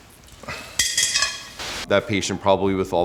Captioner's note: bullet clanging in pan